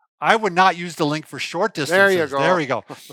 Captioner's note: laughs